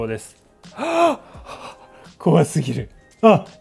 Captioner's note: sigh